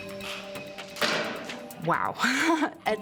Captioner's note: laughs